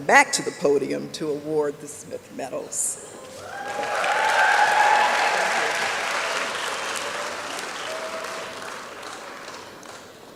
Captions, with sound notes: back to the podium to award the Smith Medals. (applause and cheering)